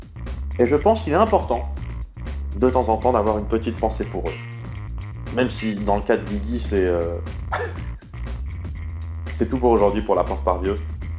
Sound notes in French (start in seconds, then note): 7.5 rires